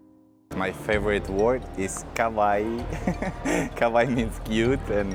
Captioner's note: giggle